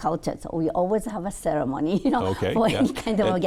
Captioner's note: chuckling